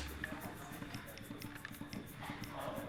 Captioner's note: murmurs from the crowd